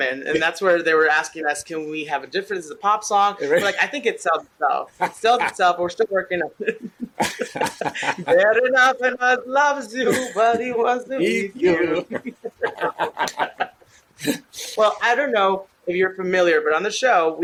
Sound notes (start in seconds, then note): 6.6 laughter; 8.4 singing; 11.6 laughter